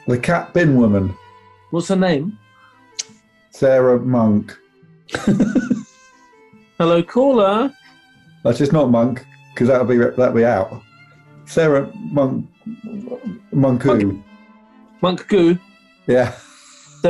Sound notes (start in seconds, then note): 5.1 giggling; 16.1 laughing